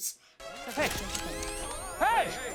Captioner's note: tasers charging